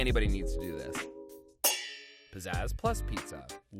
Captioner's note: metal clangs